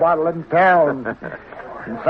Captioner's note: laughter